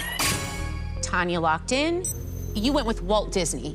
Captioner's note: chime